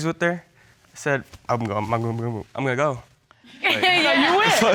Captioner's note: stuttering; all laughing